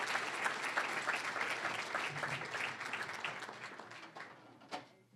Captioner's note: cheering, applause; applause